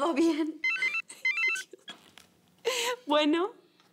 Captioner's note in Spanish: Suena el teléfono